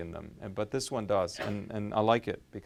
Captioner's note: sneezes